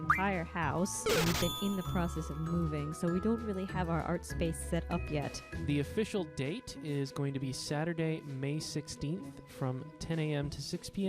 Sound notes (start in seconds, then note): 1.0 SFX: Final Fantasy cursor; 1.0 SFX: cash register noise, Mario game over